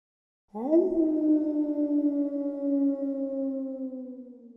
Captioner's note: wolf howls